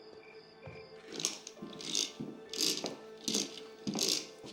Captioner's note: toy clicking